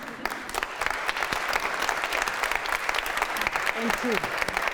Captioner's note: audience applauding